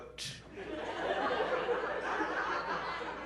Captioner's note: laughter